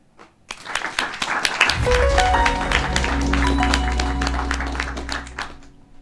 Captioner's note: attendees applauding; gentle music